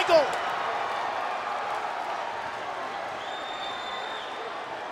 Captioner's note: audience cheering